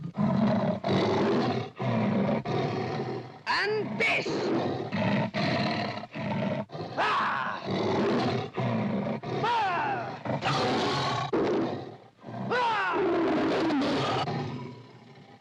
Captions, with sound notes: (tiger growls & snarls) And this! (tiger growls & snarls) Rahhh! (tiger growls & snarls) (Mowgli snarls) (tiger growls & snarls) [Mowgli yells & snarls] (tiger roars)